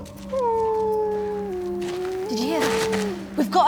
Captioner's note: wolf whining